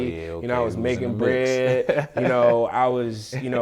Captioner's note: laughing